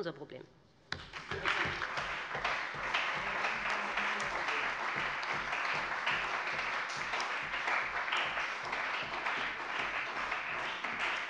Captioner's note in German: Beifall bei dem BÜNDNIS 90/DIE GRÜNEN und der CDU